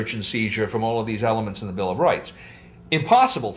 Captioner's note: none